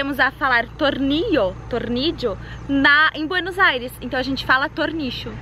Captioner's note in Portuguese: falando com sotaque